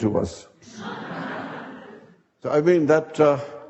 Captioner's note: audience laughing